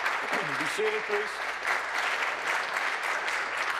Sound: applause

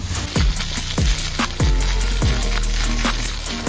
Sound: water spraying

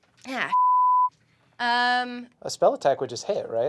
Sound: beep

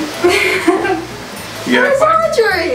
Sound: laughing

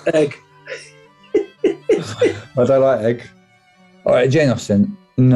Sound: sniggering; giggling

